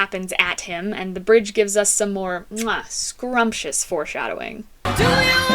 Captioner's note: mwah